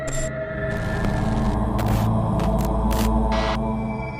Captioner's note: static crackling